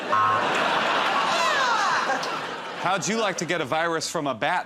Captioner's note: laughter